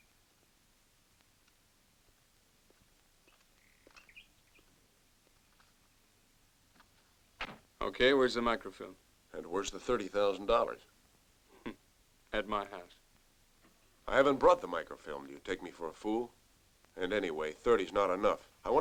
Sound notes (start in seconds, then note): 11.6 chuckles